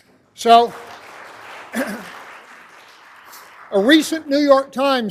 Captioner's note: applause